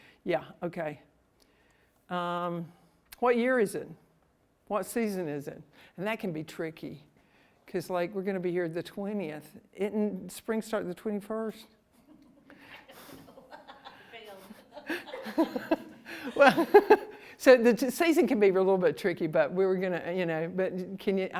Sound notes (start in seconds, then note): 12.0 laughter